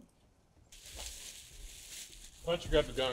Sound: plastic rustling

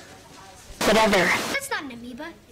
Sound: megaphone effect

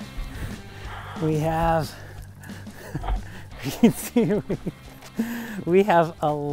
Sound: laughing

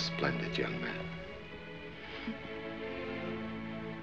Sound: laughs

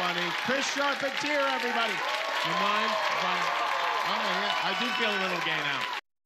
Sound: cheers and applause

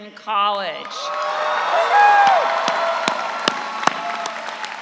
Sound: audience cheering

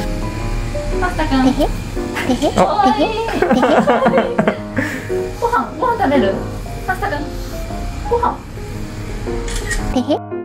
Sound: teehee, Teehee

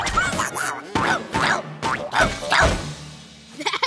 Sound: stomping

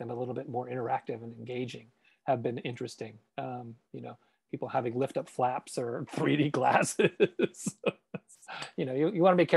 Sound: laughs

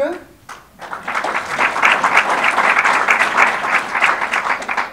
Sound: audience applause

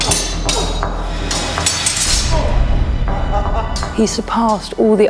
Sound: dramatic music; swords clang; men grunt; spectators laugh

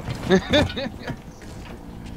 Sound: laughing

